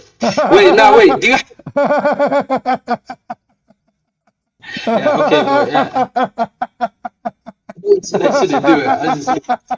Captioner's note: Ketawa